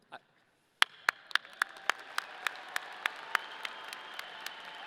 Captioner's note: audience cheering